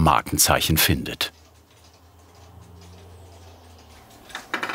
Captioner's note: regular ticking